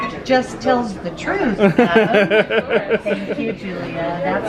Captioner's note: laughs